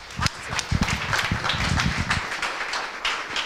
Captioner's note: applause